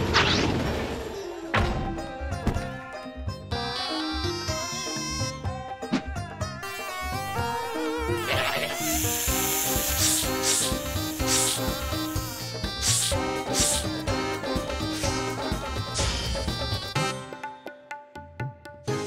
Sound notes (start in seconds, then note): 2.2 arabic music; 8.2 snake hisses; 17.1 musical fanfare